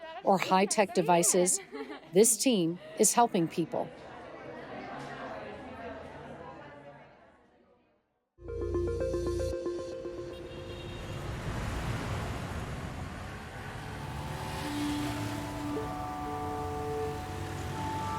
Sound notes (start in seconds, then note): 8.4 upbeat music; 8.5 vehicles rumbling; 13.8 gentle music